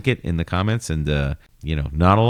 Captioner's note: uh